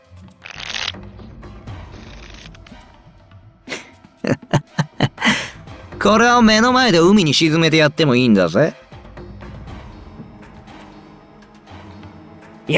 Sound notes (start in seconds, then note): 4.2 chuckle